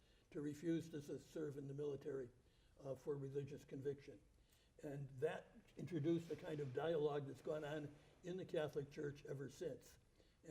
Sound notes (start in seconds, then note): none